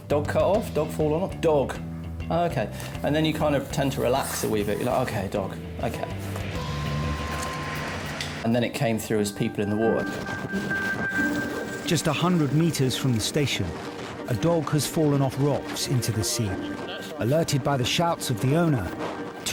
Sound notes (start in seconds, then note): 6.4 mechanics whirring; 6.5 intense instrumental music; 10.1 intense instrumental music